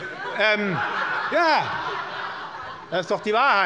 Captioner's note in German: Heiterkeit